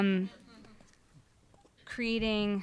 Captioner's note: audience chuckling